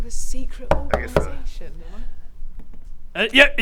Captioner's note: knock knock knock